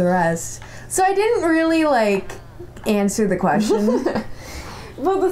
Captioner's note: laughter